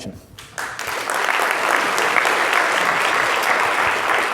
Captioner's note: audience applause